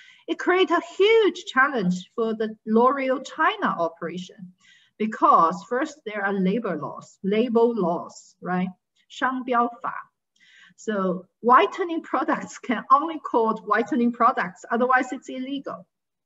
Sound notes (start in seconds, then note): 9.2 speaking in foreign language